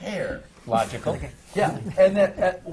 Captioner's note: laughs